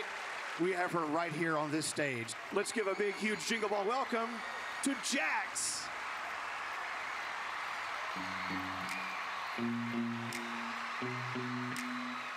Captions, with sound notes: and tonight we have her right here on this stage. Let's give a big, huge Jingle Ball welcome... to Jax! [cheers and applause]